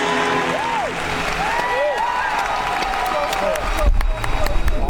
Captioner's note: audience applauding; audience cheering